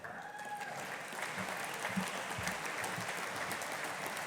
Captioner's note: audience applauding